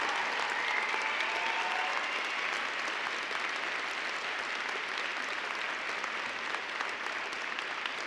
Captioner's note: applause